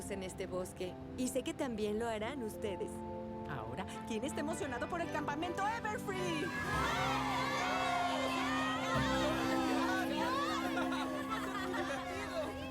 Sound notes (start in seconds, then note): 6.3 cheers